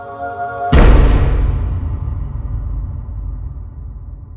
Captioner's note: door slamming